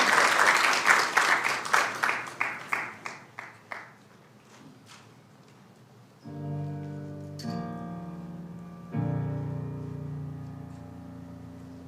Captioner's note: applauding